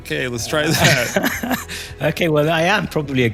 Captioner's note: laugh